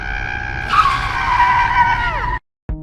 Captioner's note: tires screeching